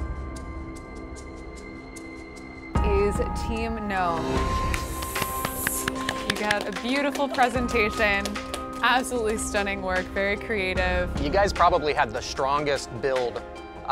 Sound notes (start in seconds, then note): 4.7 applause